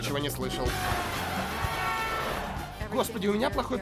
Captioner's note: horns honking